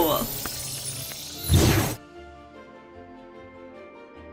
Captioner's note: magic wand chiming